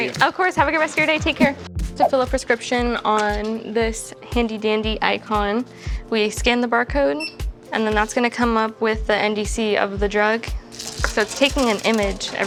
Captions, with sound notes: - Thank you. - Of course. Have a good rest of your day. Take care. To fill a prescription on this handy dandy Eyecon, we scan the barcode, [beeps] and then that's gonna come up with the NDC of the drug. [pills rattling] So, it's taking an image